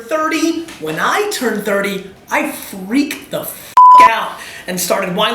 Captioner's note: beeps